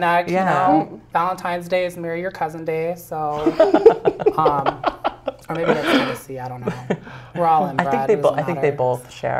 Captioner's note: laugh